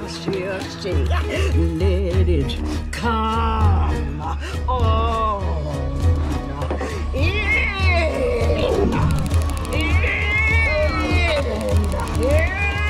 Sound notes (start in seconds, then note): 0.1 chanting; 5.0 Mrs. Webb groans; 8.4 suspenseful music intensifies; 9.7 Mrs. Webb yelling